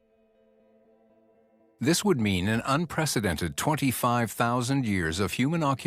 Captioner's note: narrator in English